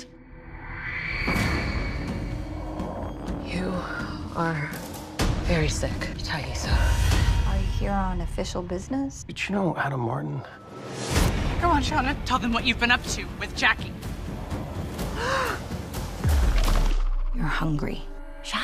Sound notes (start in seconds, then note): 0.2 dramatic music; 15.1 gasps